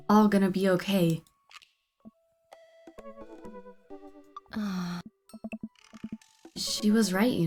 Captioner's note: sighs